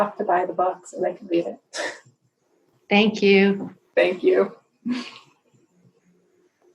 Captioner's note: laughter